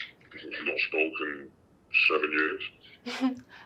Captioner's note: altered male voice